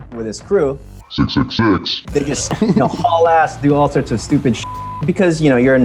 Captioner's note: beeps